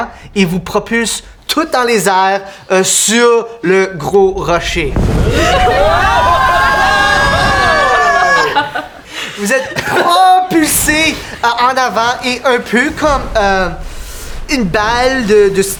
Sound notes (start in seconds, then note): 4.2 steam explosion; 8.2 laughter